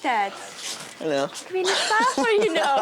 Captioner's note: laughing; chuckling